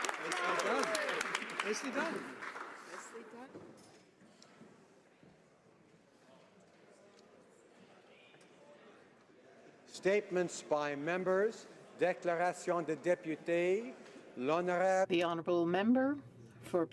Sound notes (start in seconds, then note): 0.0 applause; 6.4 speaking French